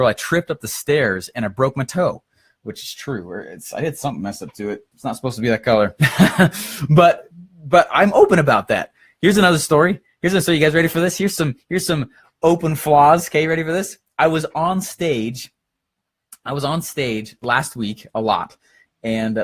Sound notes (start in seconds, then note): 6.0 laughs